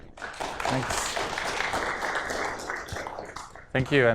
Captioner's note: applause